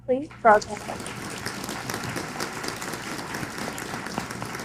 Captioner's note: applause